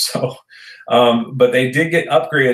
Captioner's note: chuckles